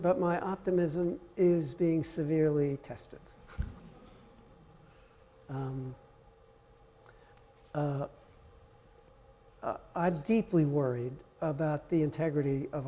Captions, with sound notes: but my optimism is being severely tested. (audience laughing softly) I'm deeply worried about the integrity